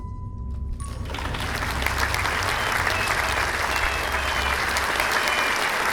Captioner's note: applause and adoring crowd noises